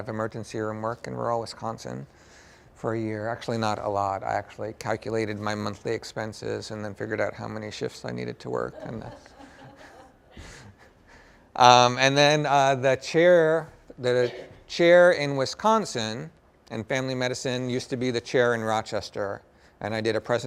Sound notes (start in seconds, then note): 8.6 laughter